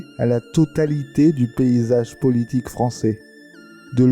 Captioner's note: french